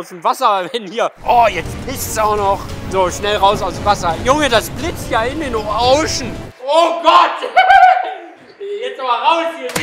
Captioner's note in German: lacht